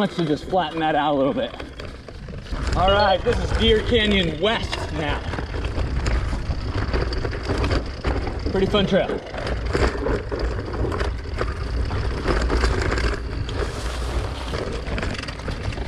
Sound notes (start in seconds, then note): 2.6 beeps; 12.4 gear clicking